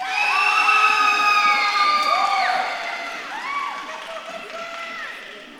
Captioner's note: audience claps and cheers